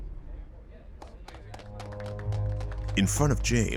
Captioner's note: audience clapping